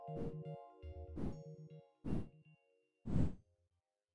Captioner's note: soft music; wooshing